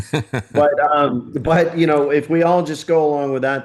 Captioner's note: laughing